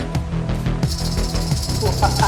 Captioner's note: rattle rattling; man laughing